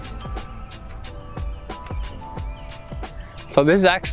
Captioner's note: birds chirping; jazzy music